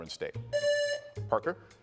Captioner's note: buzzer rings